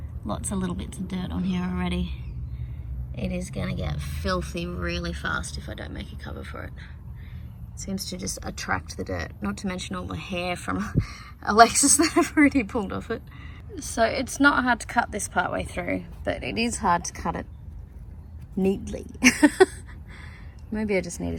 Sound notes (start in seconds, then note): 19.2 laughs